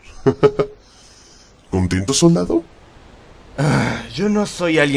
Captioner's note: laugh